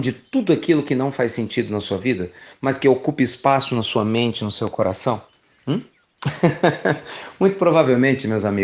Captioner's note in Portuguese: Risos